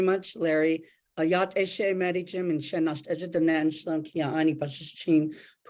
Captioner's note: speaking in Native language